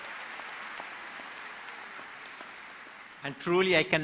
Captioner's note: applause